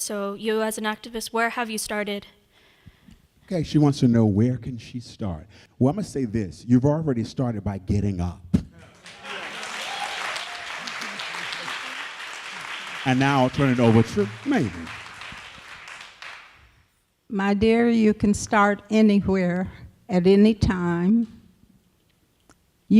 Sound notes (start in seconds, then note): 8.8 applause; 13.2 cheering